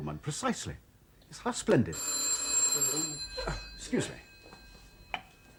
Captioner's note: phone rings